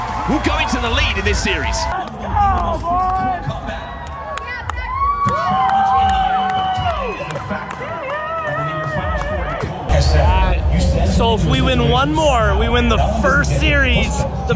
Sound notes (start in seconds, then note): 2.4 people clamoring and clapping